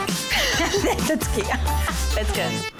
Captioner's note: laughing